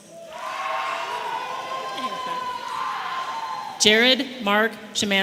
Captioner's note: audience applauding and cheering